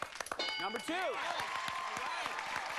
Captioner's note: bell dinging